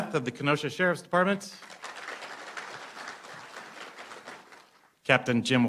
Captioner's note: applause